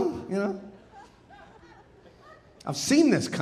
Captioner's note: audience laughing